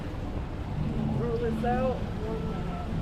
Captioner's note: none